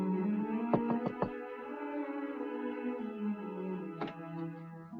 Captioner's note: knuckles rapping